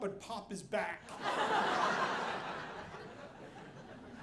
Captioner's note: audience laughing